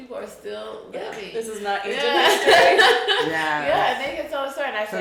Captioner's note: chuckles